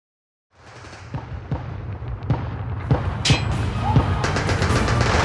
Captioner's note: distant gunshots and military stuff